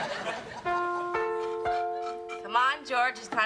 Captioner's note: bell ringing